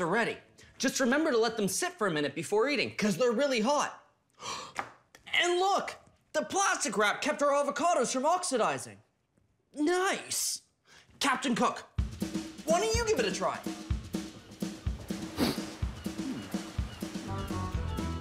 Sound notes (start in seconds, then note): 15.1 sniffs